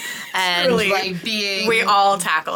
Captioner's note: laughing